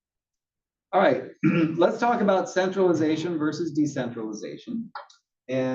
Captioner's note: cough